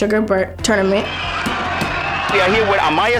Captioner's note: cheering